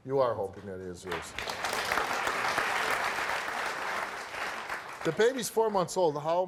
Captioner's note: audience applauds